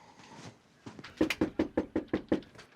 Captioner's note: knocking